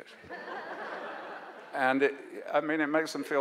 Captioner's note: audience laughs